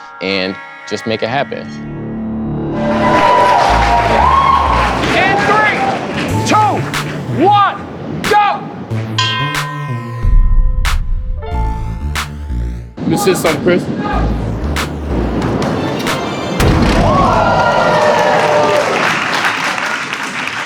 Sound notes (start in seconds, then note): 2.8 spectators applauding; 8.8 authoritative music; 16.9 spectators applauding